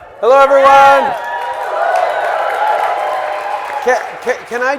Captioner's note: audience cheering